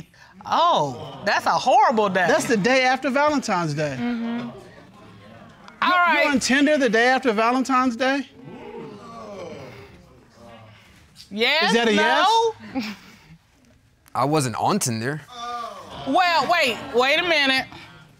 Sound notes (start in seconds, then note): 8.4 audience exclaims